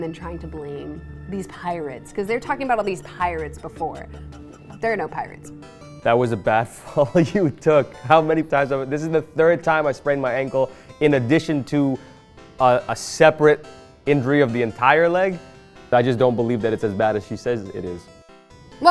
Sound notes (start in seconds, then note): 6.7 laughing